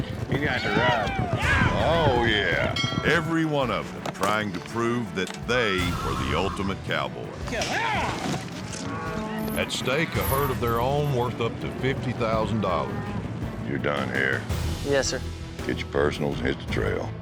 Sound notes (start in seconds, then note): 2.7 bell rings